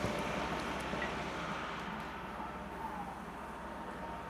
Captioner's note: excavator humming goes away